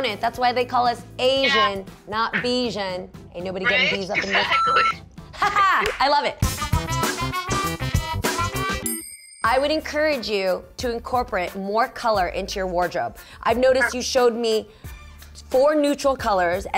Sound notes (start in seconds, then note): 3.6 laughing; 4.4 beep; 6.5 whacky music